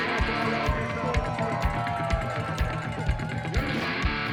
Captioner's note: cheering